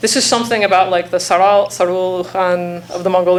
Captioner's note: speaking foreign language